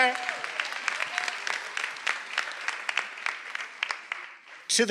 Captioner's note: attendees applauding